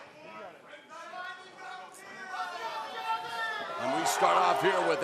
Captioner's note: crowd chatter